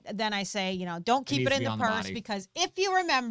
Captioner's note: murmurs